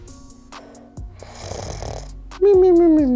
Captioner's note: snoring